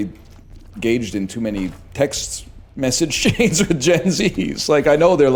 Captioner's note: laughs